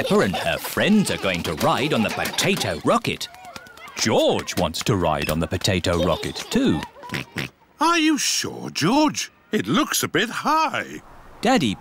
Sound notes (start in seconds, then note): 7.5 oinks